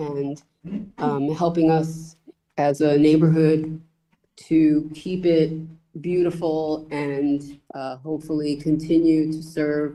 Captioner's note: clears throat